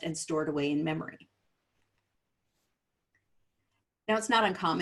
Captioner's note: silence